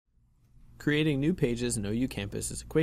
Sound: voiceover

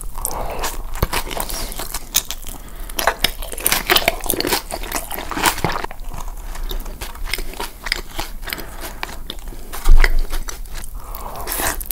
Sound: asmr eating

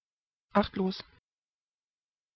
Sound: fast Pronunciation

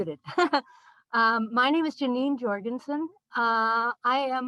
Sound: laughter

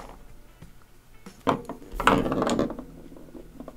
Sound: crayon rolling on the desk

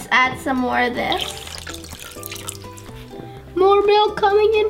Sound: liquid pouring

